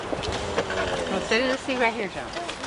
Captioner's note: cart rolling